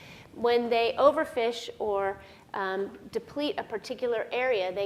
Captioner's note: none